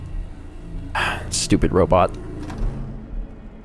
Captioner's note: sigh